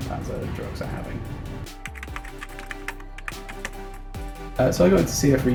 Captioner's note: typing sounds